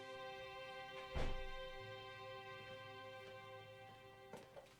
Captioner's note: door closes